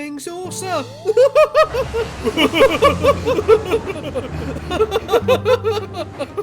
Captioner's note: both laugh